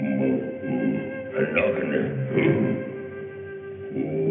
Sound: grunting gibberish

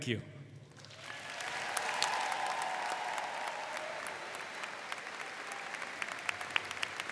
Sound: audience cheering and applauding

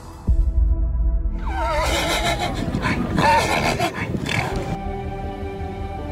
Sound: horse whining

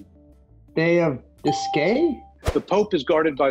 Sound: ding

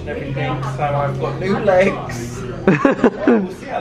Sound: laughs

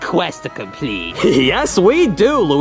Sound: chuckles

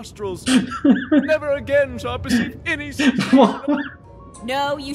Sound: laughing

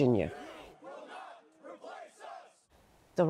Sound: crowd

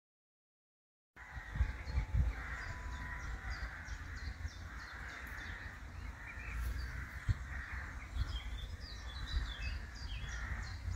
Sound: sound of birds

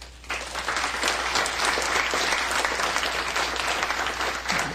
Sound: applause

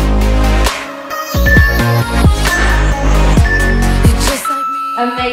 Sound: alarm beeping

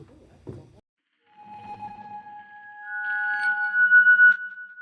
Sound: modulating tone

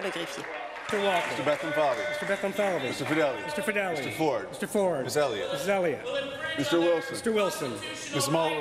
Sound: applause

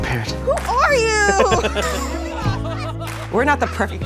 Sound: laughs

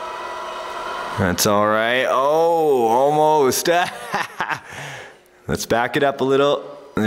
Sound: laughs

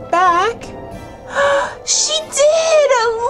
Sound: gasps

